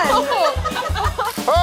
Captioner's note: group laughs